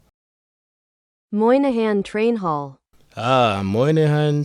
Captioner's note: Google Translate voice